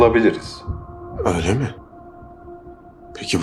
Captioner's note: surprised